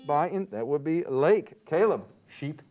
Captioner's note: buzzer beeps